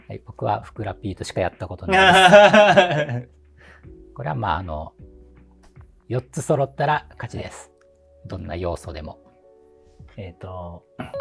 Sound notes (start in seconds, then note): 1.9 laughing